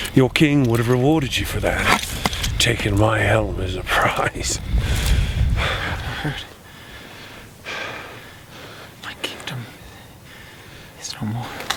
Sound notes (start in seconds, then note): 6.0 chuckles